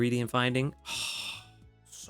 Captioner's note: sighs